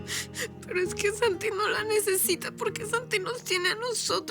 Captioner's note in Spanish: Sollozos